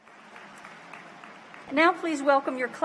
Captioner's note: applause